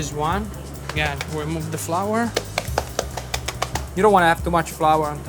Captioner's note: hand tapping